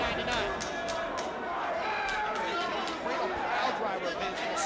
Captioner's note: hands clapping